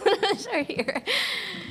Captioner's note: laughs